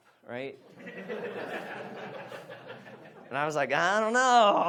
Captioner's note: audience laughs